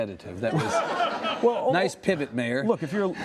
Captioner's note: laughing